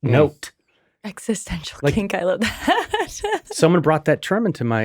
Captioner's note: laughing